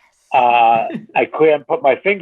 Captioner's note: laughing